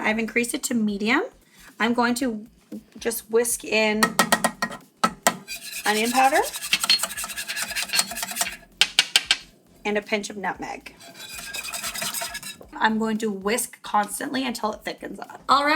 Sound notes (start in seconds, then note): 5.0 soft tapping; 10.9 metallic scraping